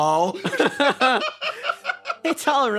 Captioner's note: laughs